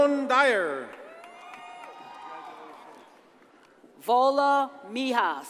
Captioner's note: audience cheers and applauds